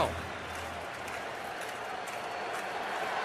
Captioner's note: crowd cheering